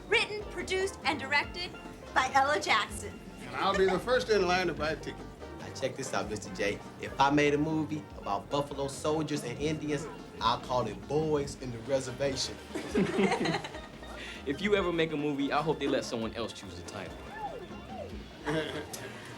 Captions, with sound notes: written, produced, and directed by Ella Jackson. - I'll be the first in line to buy tickets. - Check this out, Mr. J. If I made a movie about buffalo soldiers and Indians, I'll call it Boys In The Reservation. (laughing) - If you ever make a movie, I hope you let someone else choose the title.